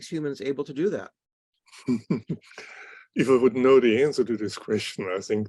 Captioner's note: laughter